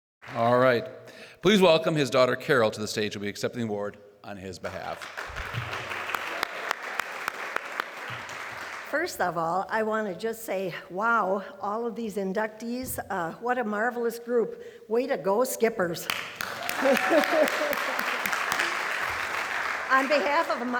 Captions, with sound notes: and always will be known as Mr. Christ. All right, please welcome his daughter Carol to the stage who will be accepting the award on his behalf. [APPLAUSE] First of all, I want to just say, wow, all of these inductees. What a marvelous group. Way to go, Skippers.